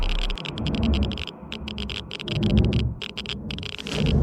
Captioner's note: geiger counter ticking